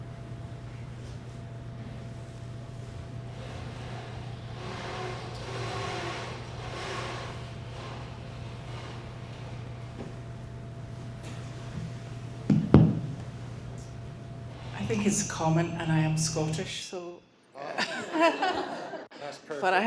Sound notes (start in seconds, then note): 13.7 with scottish accent; 17.6 laughter